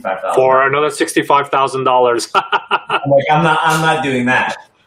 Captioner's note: laughs